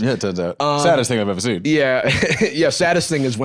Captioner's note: laughs